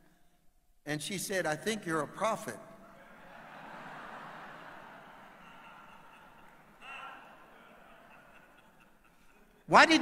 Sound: audience laughing

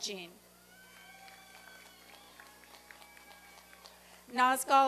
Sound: applause and cheering

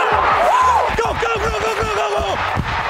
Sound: cheering

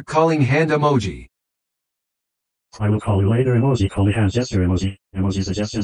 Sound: voiceover speaking

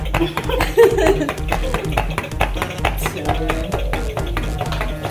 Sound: laughter; distorted audio

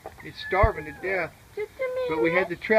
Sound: meow, meow

